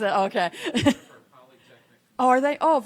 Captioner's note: attendees laughing; attendee speaking softly